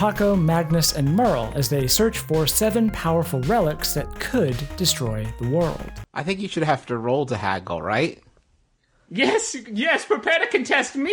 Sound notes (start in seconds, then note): 8.8 silence